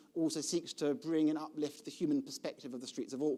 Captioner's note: none